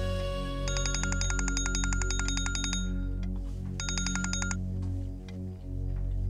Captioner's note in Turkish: Telefon çalar